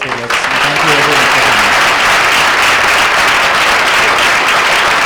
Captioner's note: audience applauds